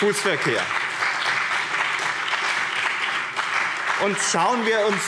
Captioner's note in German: Beifall BÜNDNIS 90/DIE GRÜNEN und CDU